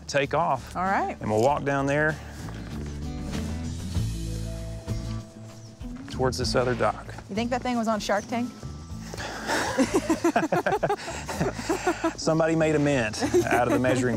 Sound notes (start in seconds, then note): 9.1 laughing